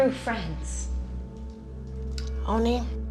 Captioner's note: bells chime distantly